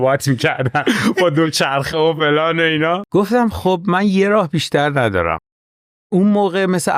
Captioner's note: laughs